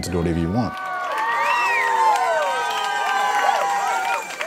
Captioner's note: cheering